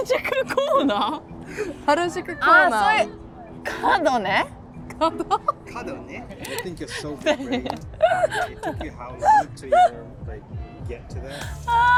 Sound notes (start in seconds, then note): 2.8 speaking foreign language; 8.7 laughing